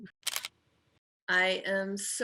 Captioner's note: camera clicking